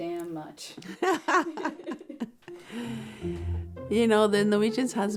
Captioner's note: laughing